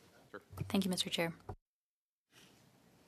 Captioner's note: speaking in French